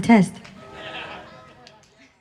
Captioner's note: laughter